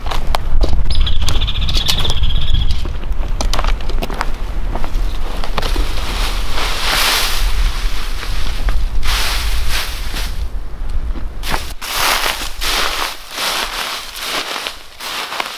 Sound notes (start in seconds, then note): 0.8 birds chirping; 6.9 leaves rustling